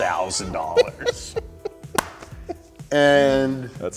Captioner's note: laughs